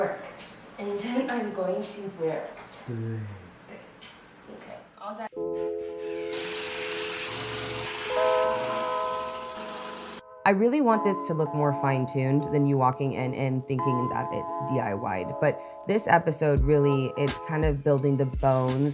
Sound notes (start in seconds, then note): 6.2 driller whirring; 6.3 pleasant music